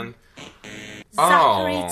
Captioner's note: buzzes